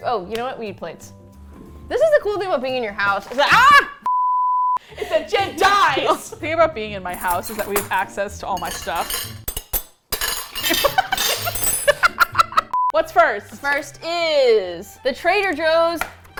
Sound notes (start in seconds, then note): 3.5 screams; 8.5 silverware clanging; 9.0 laughs